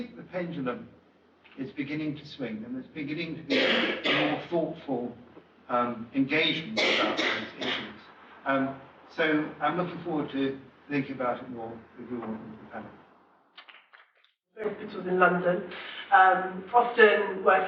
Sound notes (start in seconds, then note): 6.6 audience coughing; 12.7 fades out with applause